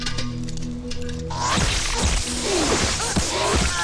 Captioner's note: Gunshots